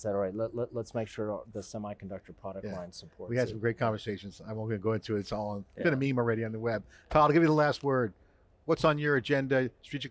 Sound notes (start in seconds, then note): none